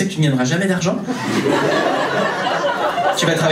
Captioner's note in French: rires public